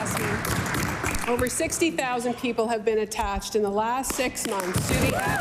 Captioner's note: applause